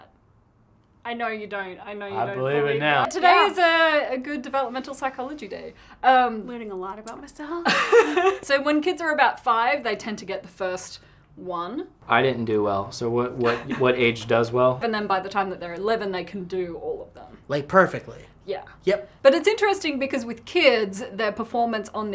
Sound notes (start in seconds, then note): 7.6 laughter